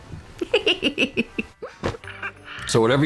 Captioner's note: giggling